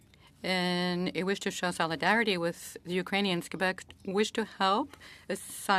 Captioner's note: speaking French